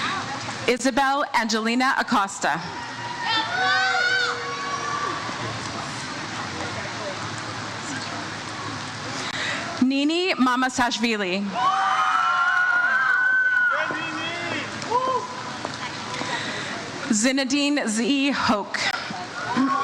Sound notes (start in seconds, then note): 2.6 crowd cheers; 11.4 crowd cheers